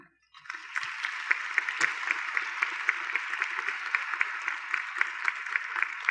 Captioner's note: applause